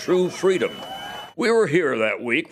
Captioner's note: cheers